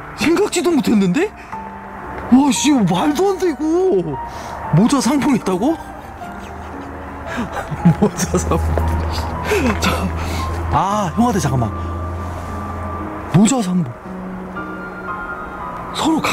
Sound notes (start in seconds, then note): 10.2 breath